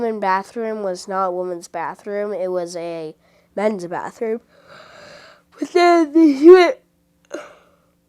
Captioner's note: big yawn